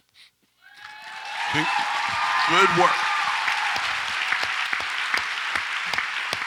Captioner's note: audience applauds and cheers